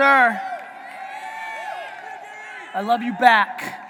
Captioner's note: audience cheering